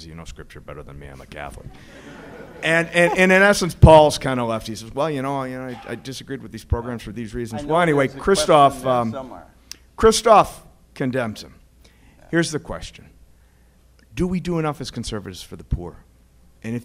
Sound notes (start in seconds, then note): 1.7 laughter